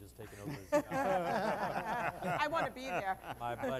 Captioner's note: laughter